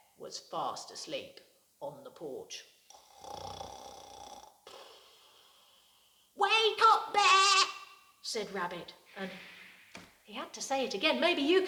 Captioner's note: snores